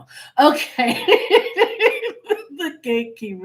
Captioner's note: laughing